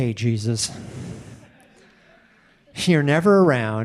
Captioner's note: audience laughing